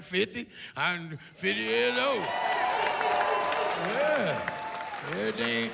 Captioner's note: cheering